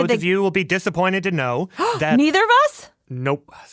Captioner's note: gasps